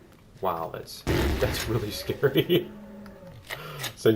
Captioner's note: explosions; laughs